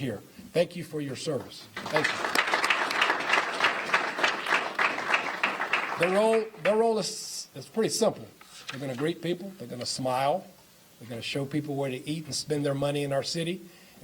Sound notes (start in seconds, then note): 4.2 applause